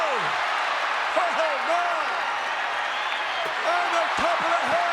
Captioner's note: audience cheers